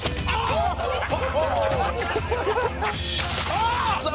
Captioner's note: laughter